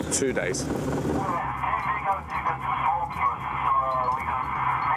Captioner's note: officer On Speaker